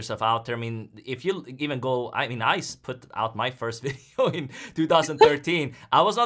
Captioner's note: laughs